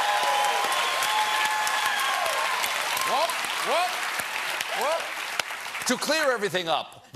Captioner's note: cheers and applause